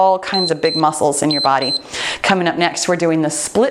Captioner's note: timer beeps